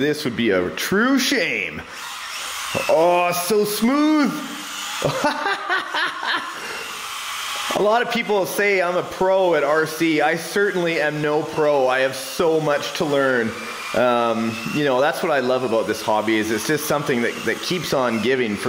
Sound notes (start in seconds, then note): 2.4 motor whirs; 4.9 laughs